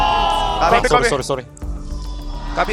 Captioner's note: BuZz